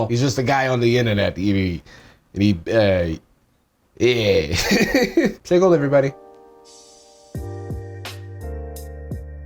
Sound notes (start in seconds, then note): 4.5 laughs